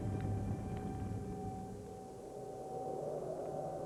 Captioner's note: wind Whistling